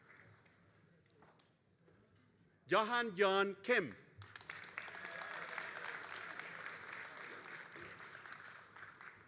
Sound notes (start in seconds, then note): 4.2 all applauding